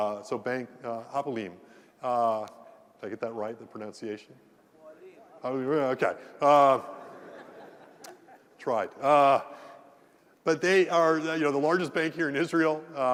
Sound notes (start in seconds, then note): 6.9 laugh